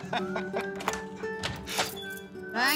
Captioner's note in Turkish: Gülme sesi; Kapı açılma sesi